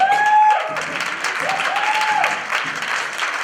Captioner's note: applause